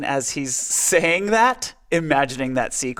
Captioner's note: laughing